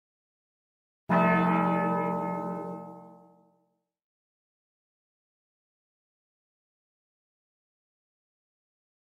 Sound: church bell

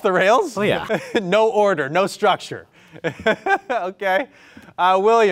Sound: laughs

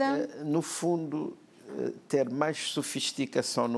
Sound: speaking portuguese

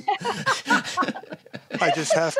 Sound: laughs

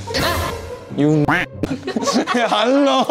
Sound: quack

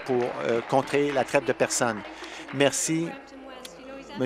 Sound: applause

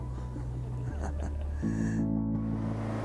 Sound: laughs

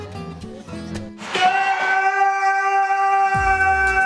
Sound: screaming

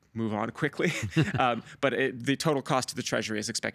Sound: chuckling

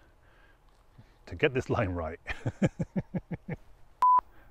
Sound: laughs

